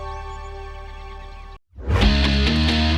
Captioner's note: tense dramatic music; birds chirping; upbeat music